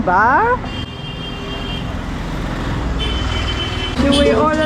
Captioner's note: traffic